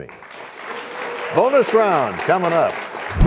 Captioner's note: applause